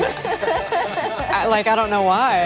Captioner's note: group laughing